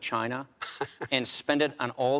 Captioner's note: chuckles